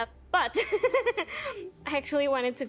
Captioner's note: laughing